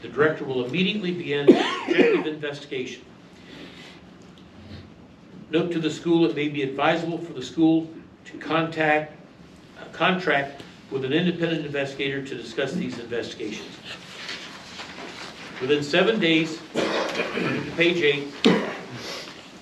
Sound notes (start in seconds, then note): 9.1 stammers; 18.4 male audience member coughs boisterously